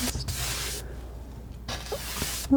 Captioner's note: scratching